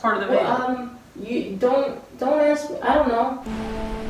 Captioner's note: stammering